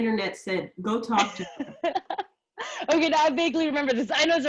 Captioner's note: laughs